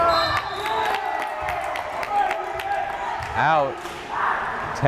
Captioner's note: whistle blares